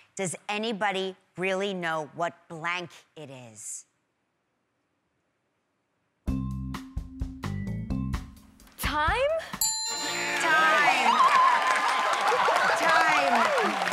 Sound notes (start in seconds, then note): 9.6 ding!; 11.6 cheers and applause